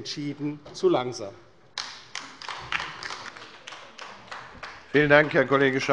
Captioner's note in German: Beifall bei der LINKEN